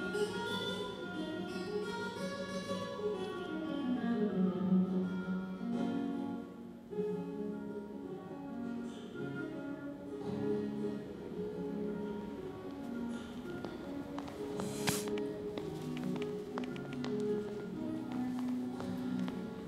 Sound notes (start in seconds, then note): 12.2 footsteps; 14.5 air hisses